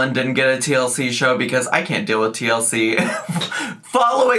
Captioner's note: laughs